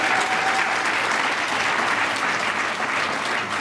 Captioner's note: applause